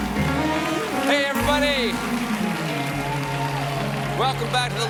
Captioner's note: applause